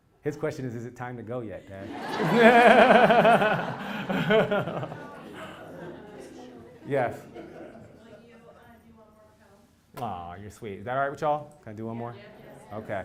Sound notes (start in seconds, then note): 1.7 laugh